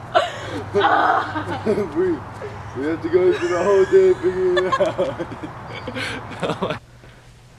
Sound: laughing

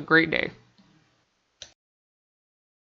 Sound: click

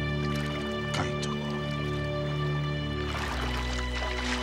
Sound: non-english speech

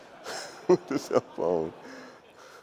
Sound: laughs

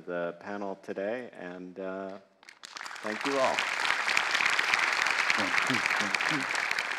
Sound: audience applauding

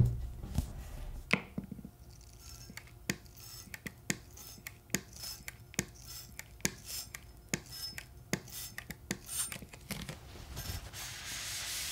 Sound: sounds of cleaning a knife with water

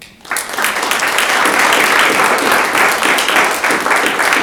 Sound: audience applauding

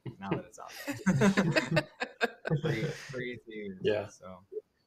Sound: laughter

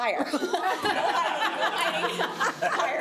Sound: laughter

